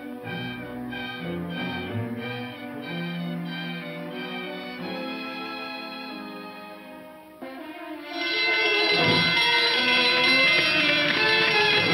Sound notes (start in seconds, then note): 7.9 alarm ringing